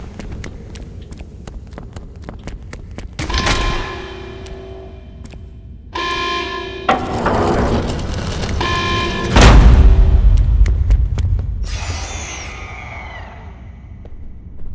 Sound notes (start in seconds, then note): 4.4 thunder rumbling; 11.6 eerie music